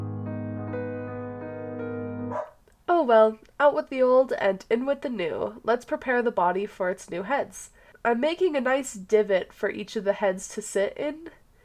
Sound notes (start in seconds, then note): 0.0 sad music; 2.3 bark